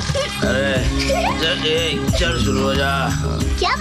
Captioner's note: Laughs